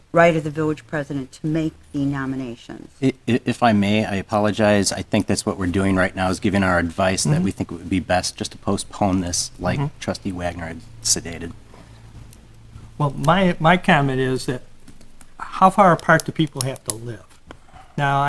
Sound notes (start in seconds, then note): 12.0 voice muffled